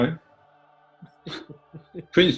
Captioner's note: chuckling